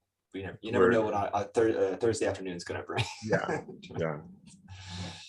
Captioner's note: chuckles